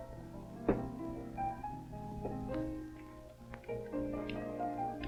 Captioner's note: soft music; glass thudding; soft music